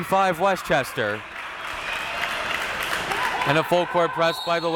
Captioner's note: crowd clapping